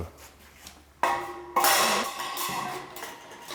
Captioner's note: clattering of sheet metal